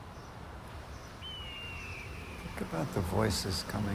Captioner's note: hawk screams